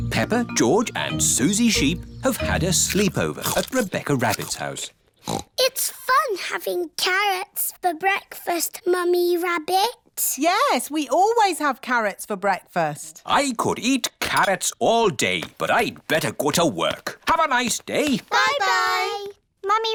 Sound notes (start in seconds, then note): 5.2 snorts